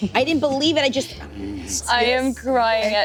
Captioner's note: growls